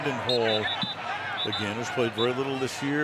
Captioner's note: whistling